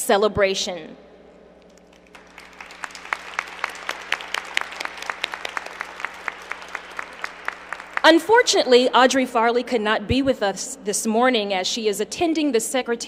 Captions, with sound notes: SINCERE PLEASURE TO WELCOME YOU TO DOT'S ANNUAL AFRICAN-AMERICAN HERITAGE CELEBRATION. [APPLAUSE]